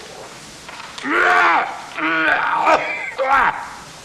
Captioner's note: coughing